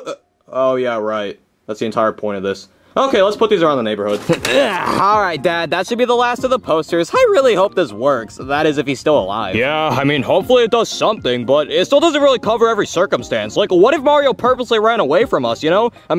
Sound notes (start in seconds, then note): 4.4 Junior grunting